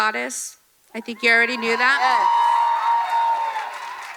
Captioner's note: audience cheering